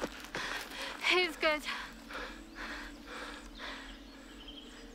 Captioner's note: gasping